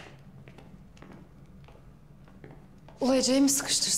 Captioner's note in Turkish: Ayak Sesleri